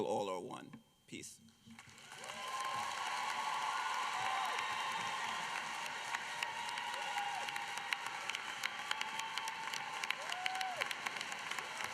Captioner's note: applause